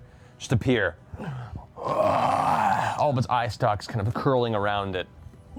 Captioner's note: guttural moan